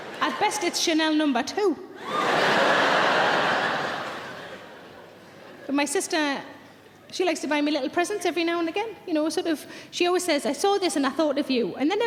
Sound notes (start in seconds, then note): 0.0 audience laughing; 2.0 audience laughs